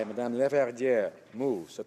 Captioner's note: applause